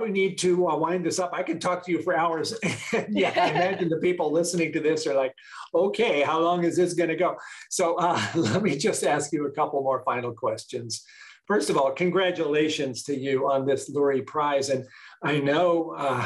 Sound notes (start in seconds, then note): 2.6 laughter